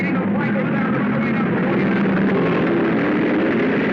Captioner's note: cars revving